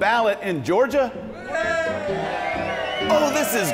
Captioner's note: cheers